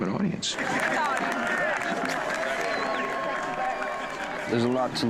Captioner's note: cheering